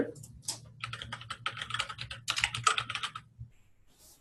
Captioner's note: typing